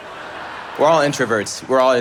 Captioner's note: audience laughing